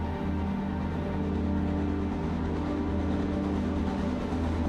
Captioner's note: gentle music; train chugs